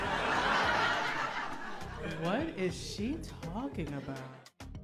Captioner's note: laughter